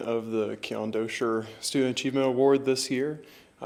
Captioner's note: none